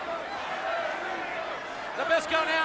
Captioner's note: crowd cheering